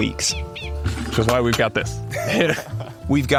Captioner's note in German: beide lachen